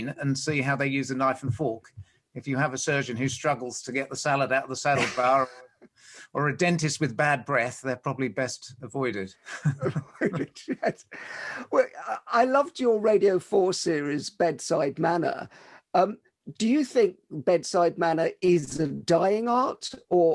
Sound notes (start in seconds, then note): 4.9 laughs; 9.4 both laugh